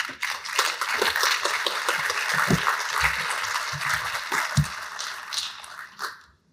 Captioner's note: applause